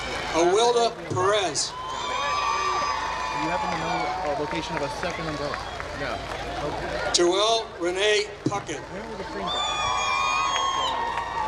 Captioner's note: applause